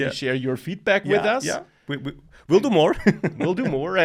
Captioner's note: laughs